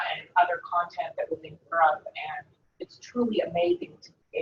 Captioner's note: speaking away from mike